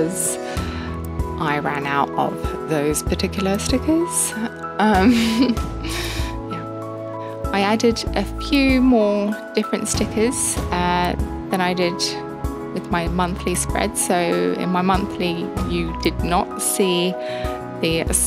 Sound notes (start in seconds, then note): 5.0 laughs to herself